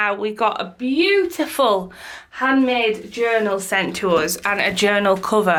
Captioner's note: none